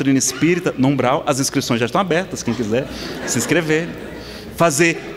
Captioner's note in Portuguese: Risadas